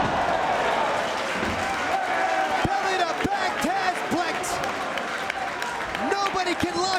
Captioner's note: applause